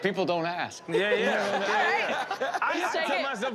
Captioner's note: laughter